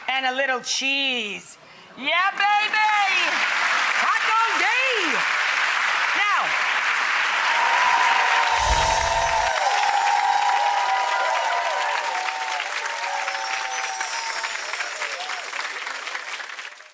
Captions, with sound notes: and a little cheese, yeah baby! Taco day! (audience claps)